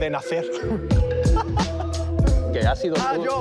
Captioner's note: laughs